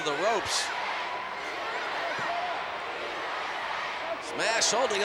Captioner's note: crowd chanting "USA"